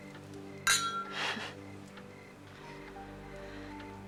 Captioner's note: glasses clinking; soft music